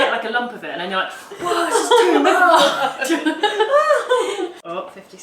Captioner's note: laughs